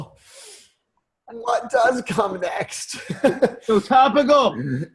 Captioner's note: laughs